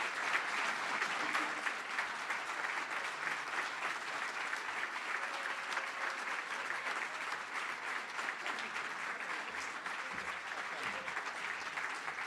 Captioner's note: cheering & Applause